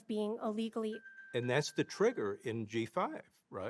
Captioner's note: timer ringing